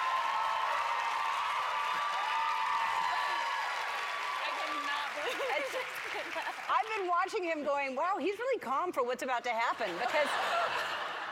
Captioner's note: cheers and applause